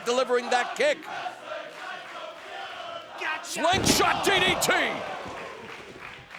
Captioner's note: applause